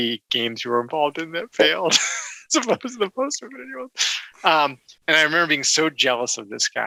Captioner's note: laughs